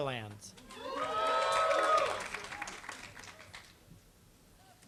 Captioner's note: applause